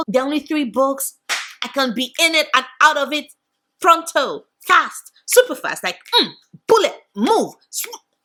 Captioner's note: clap